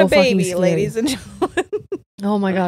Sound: laughs

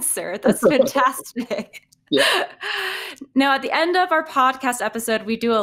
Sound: laughing

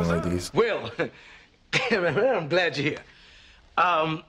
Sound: chuckles

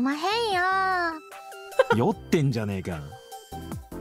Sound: chuckles

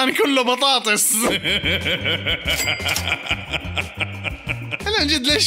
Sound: laughter

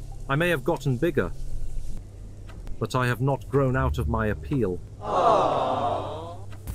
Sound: aww

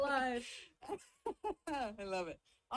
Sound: laughs

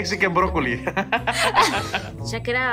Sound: both laughing

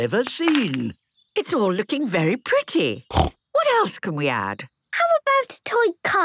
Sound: snorting

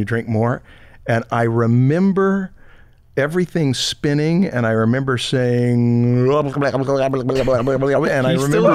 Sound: speaking gibberish

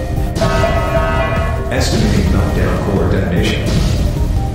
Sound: announcement Chime

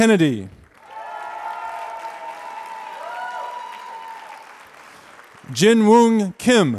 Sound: applause

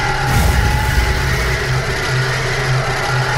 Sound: creature noises echoing

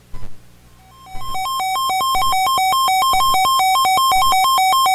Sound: weather radio warning alarm tone

